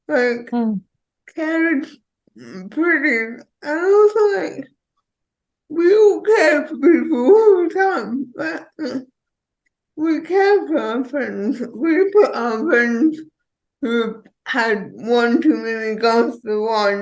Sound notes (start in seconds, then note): none